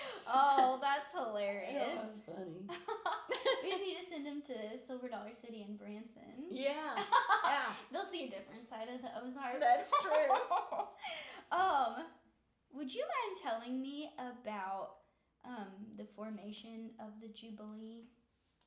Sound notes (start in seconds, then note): 2.7 laughing; 7.0 laughing